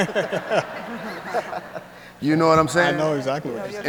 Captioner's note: audience and speakers laugh